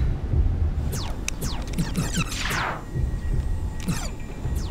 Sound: video game zapping

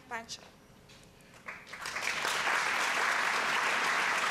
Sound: applause

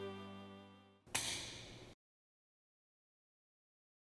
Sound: click

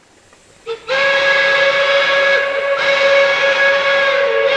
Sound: train horn blaring

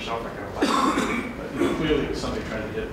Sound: man coughing

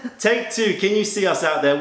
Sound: laughter

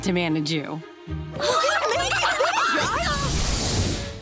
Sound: cheering

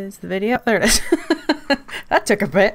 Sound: laughs

